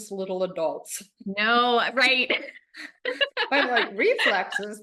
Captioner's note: laughs